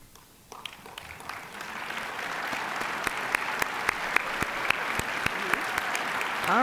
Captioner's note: applause